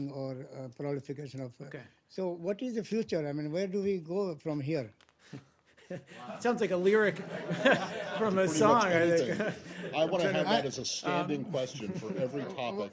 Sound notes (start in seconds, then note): 6.8 laughter